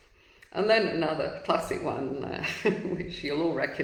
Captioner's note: chuckles